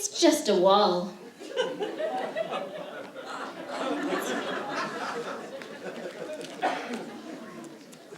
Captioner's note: laughter